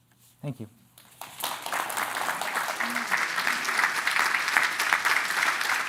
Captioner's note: applause